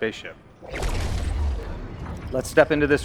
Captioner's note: whooshing